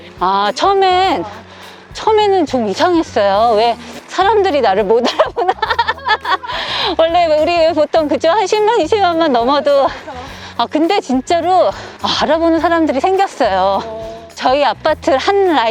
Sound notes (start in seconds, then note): 5.0 laughter